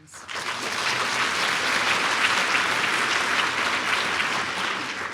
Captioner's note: audience applauds